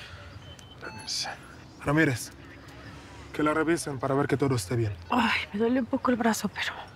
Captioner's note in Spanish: Habla inglés